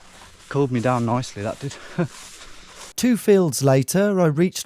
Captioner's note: chuckles